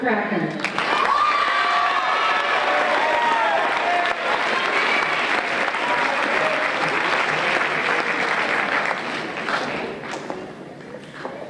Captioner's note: applause and Cheers